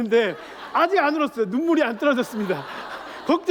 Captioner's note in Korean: 웃음